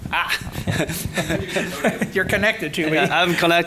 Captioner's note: laughing